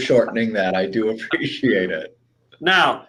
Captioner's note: laughs